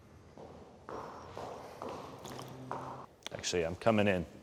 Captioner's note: footsteps approaching